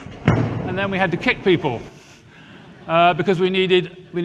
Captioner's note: audience laughs